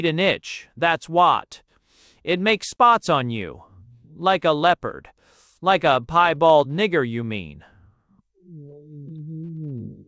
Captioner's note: _Resentfully. _